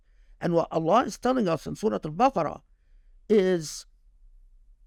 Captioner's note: speaking Arabic